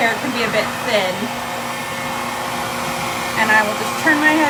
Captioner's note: hair dryer whirs continues